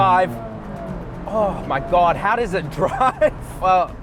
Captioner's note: laughs